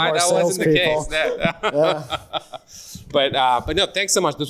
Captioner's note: laughs